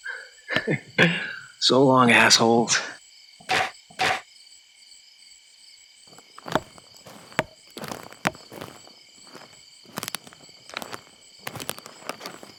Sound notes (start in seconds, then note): 0.0 chuckles; 3.5 knocks cracking; 7.3 wood tapping; 9.4 footsteps crunching